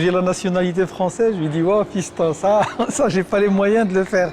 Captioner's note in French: rires